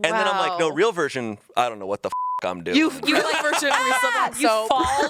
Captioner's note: beep